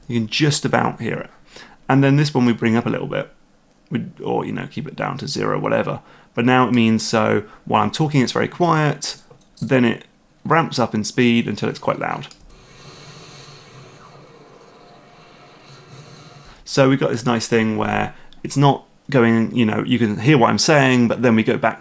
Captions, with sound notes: You can just about hear it. And then this one we bring up a little bit, or keep it down to 0, whatever. Now it means when I'm talking it's very quiet, then it ramps up in speed until it's quite loud. (Game audio ramps up from quiet to normal) So we've got this nice thing where you can hear what I'm saying, but then we go back